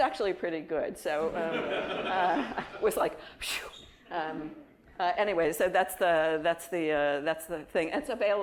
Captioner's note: laughter